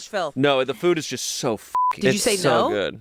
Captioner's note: beep